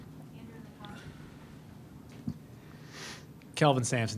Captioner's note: lady speaks faintly